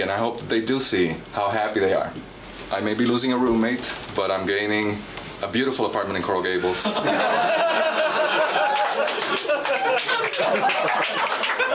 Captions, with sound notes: and I hope they do see, how happy they are. I may be losing your roommate, but I'm gaining a beautiful apartment in Coral Gabels. (laughing)